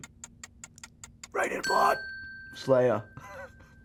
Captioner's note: whisper scream